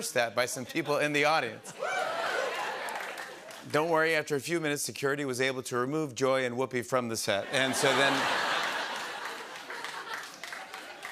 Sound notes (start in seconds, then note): 1.7 cheers; 7.4 laughter